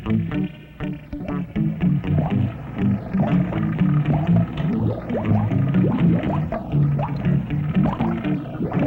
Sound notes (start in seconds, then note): 2.0 water bubbling